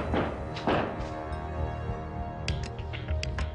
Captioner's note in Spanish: Toques en la puerta